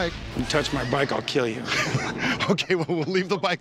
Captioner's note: laughing